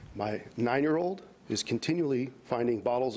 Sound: none

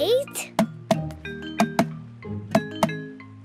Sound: tapping

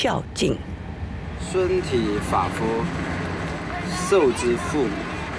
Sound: speaking Chinese

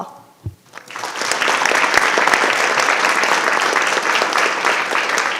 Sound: audience applauding

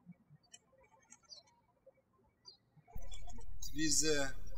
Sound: birds chirping

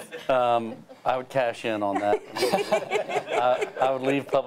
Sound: laughing

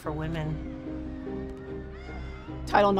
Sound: crowd cheering

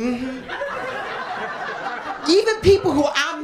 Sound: laughter

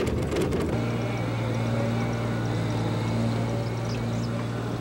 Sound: machines humming

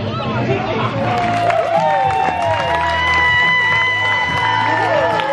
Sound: applause and cheering

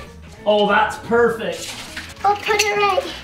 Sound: lights rattle

